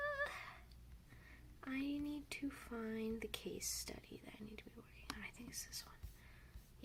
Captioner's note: +singsong+; +whispers to self+